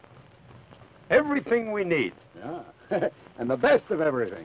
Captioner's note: chuckles